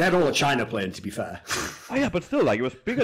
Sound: laughs

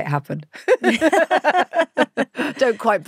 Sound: both laughing

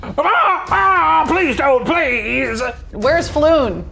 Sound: yelling

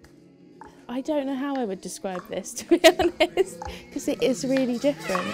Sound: laughs

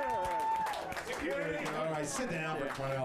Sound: audience cheers

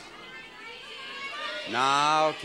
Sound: audience shouts incoherently

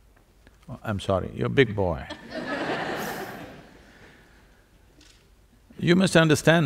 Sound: laughter

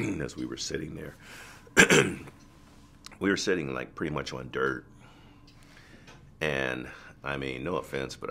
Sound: clears his throat

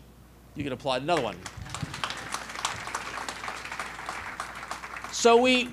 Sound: applause

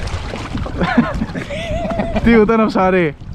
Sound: laughs

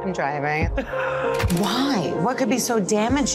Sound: laughing

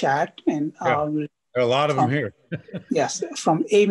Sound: laughs

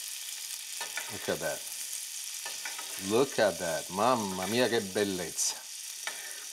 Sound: speaking in Italian

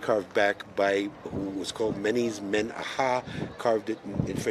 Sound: speaks foreign language

